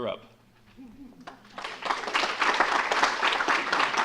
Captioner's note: audience applauding